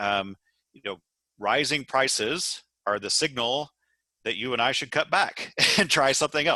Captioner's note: laugh